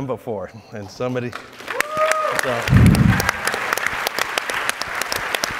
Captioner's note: audience applauds